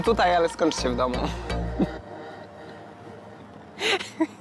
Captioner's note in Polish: śmiech